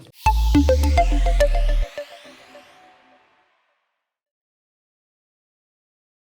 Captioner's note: bright music; logo whooshing